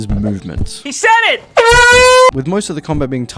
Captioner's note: airhorn